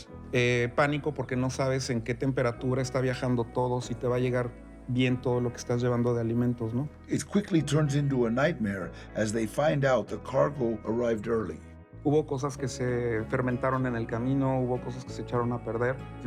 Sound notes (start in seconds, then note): 0.2 in Spanish; 7.1 in English; 12.0 in Spanish